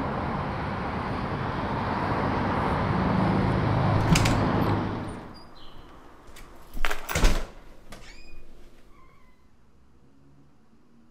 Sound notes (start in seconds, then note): 3.9 door clatters; 6.4 keys rattle; 8.3 door creaks